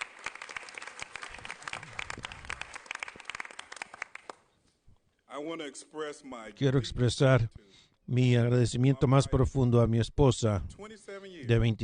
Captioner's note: applause